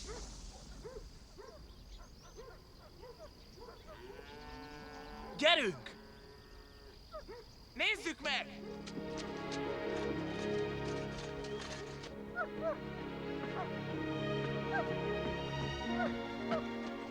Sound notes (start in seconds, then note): 0.0 dogs barking; 12.3 dog barking